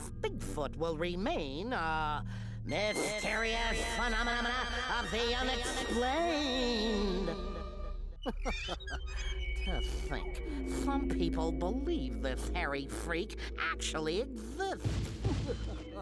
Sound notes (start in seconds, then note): 8.1 chuckling